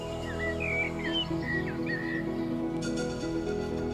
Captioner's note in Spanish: pájaros trinando